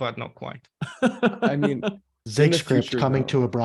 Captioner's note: laughing